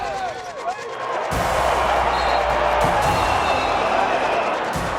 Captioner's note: cheering